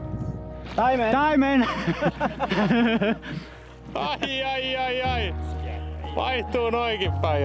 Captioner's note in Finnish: naurua